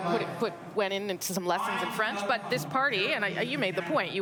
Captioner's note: speaking French